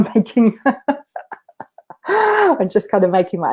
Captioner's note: laughs